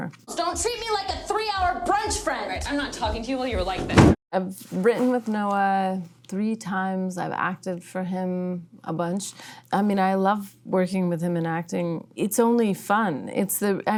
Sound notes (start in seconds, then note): 3.8 body thumping